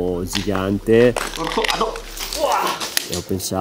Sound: screams

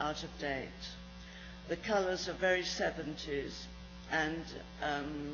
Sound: none

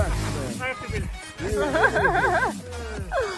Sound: giggling

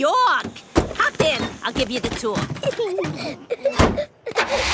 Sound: Peppa and George laughing

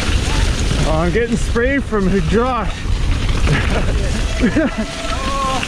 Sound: chuckles

